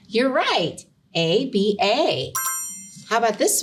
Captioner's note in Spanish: pitido de bocina optimista